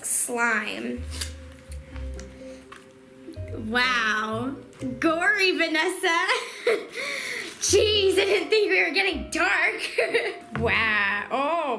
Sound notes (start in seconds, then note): 6.4 laughs